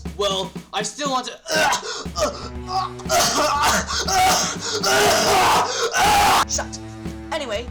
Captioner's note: coughing violently, possibly to death